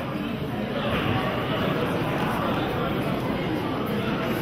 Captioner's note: audience chattering